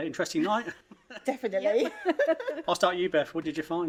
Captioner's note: giggling